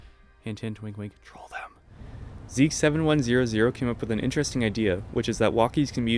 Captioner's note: whisper